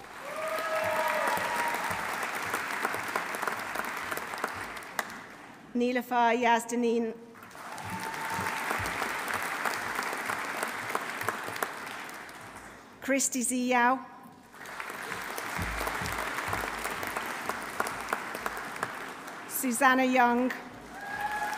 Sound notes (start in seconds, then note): 0.0 audience cheering; 0.0 audience applauding; 7.4 audience applauding; 7.6 audience cheering; 14.3 audience cheering; 14.5 audience applauding; 20.8 audience applauding; 20.9 audience cheering